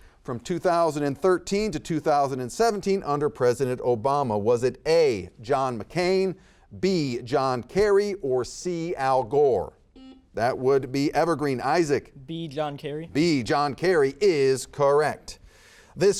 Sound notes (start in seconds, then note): 10.0 buzzer beeping